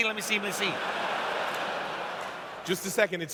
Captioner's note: laughter